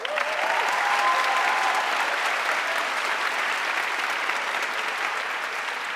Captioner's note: audience cheering and applauding